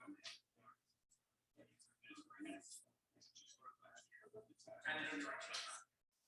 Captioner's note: people chattering indistinctly